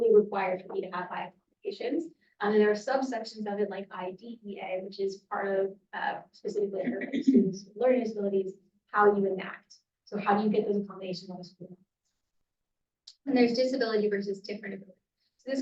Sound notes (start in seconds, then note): 6.8 clearing throat